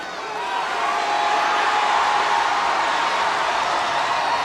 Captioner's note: audience cheers